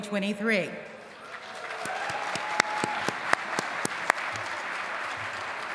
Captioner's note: applause